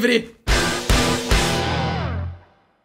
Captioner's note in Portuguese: som de destaque